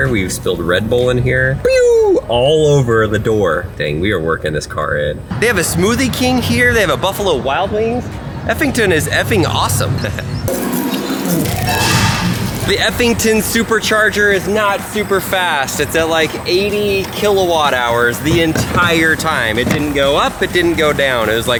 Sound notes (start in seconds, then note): 9.9 giggles